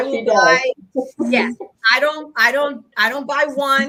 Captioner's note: chuckles